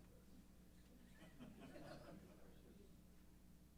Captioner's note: laughter